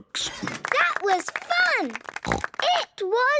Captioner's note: applause